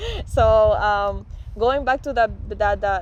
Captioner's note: laughter